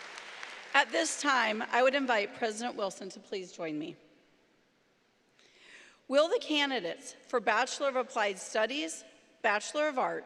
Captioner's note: applause